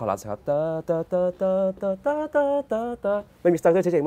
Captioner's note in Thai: เสียงฮัมเพลง